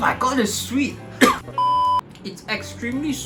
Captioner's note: coughs